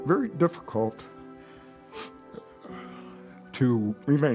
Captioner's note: voice breaking; sniffs, exhales